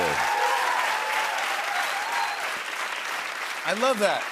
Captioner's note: cheers and applause